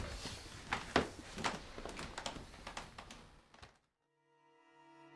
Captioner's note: floor creaking; footsteps